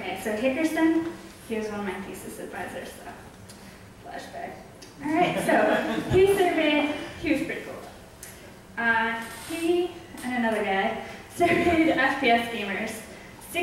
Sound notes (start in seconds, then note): 5.1 audience laughs